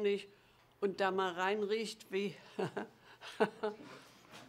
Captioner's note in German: lacht